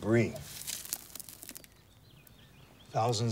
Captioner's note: dirt crumbles